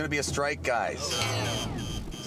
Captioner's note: buzzing